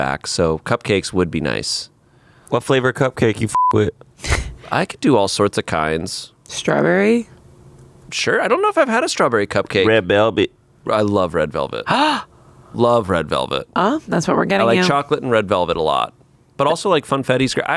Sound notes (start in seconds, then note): 3.5 beep; 11.8 gasps